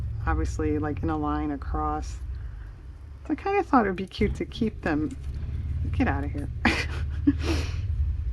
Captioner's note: laughs